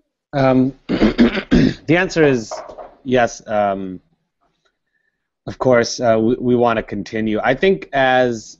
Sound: cough

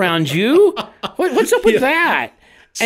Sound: co-hosts laugh

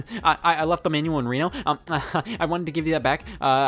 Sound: chuckles

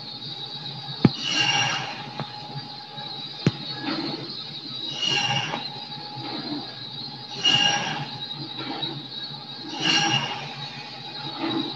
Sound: saw blade noises

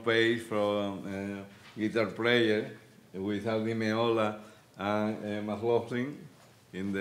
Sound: speaking Spanish

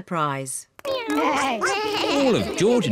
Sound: all making animal sounds

